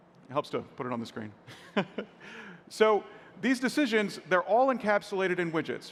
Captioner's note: laughs